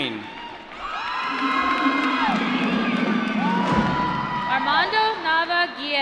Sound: applause

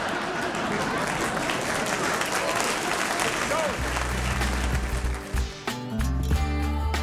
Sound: laughter and applause

